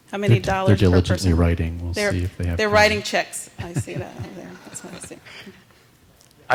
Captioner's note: laughter